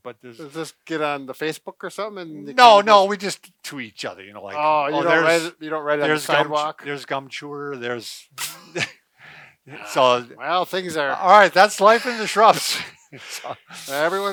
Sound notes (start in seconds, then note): 6.0 laughs